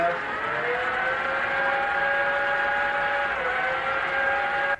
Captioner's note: machines whirring